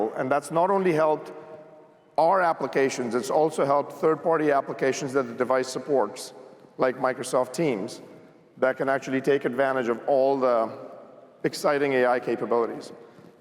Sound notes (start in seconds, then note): none